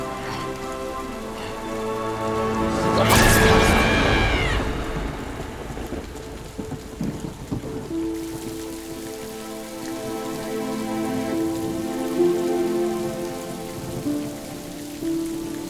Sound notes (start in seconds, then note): 2.6 screams; 2.6 thunder